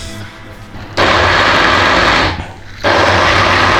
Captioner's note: blender